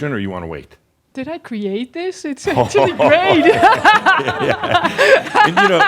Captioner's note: laughs; she laughs